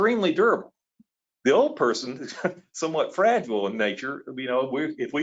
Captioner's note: laughs